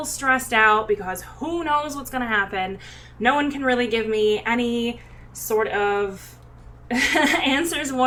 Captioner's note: laughs